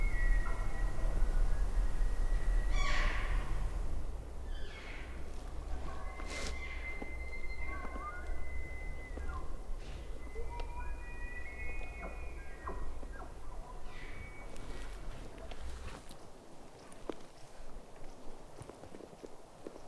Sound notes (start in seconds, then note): 2.6 caller cow calling; 5.8 multiple Elk Bugling